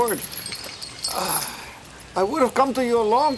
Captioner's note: Crecencio sighs